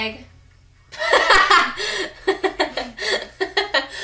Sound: laughs

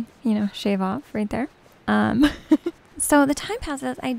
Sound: giggles

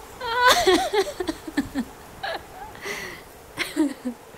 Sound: woman sobbing softly

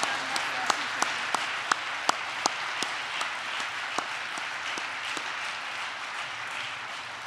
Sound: applause

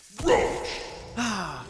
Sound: sound effect

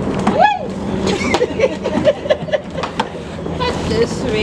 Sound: laughter

